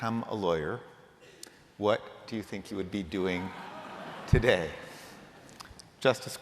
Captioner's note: laughter